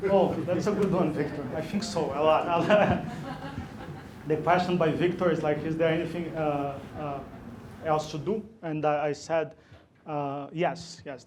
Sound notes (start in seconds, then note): 2.4 laughter